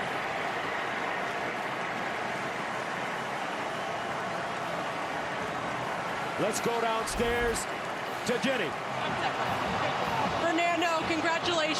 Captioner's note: cheers and applause